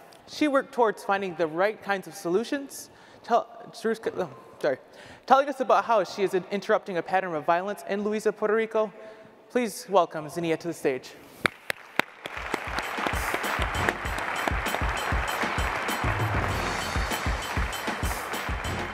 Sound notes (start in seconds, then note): 13.1 audience claps; 16.1 upbeat music